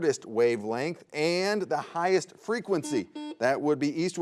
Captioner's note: buzzer buzzes